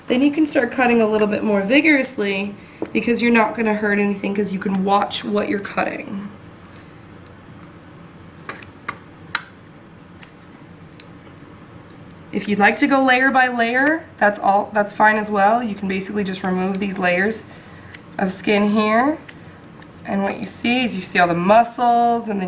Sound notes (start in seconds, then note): 10.1 clipping sounds